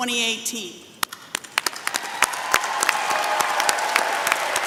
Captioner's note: applause